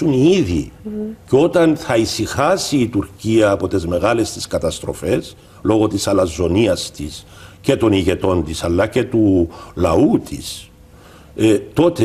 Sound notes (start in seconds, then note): 10.2 Turkish